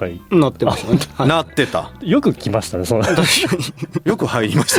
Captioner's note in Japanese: 笑い